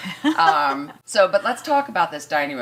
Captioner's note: laughter